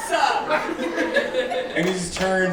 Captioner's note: laughing